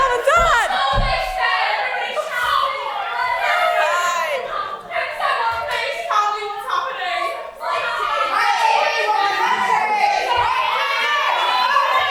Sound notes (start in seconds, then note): 0.0 Audience shouting Mike TV and cheering; 6.6 more audience shouting and chaos